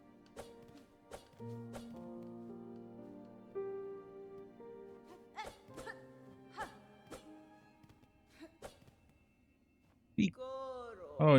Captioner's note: silence